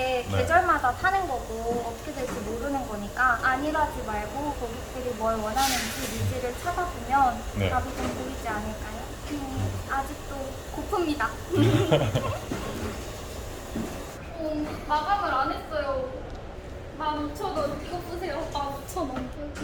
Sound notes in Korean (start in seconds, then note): 11.5 ㅎㅎㅎ, ㅎㅎㅎ